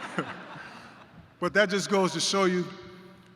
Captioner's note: laughter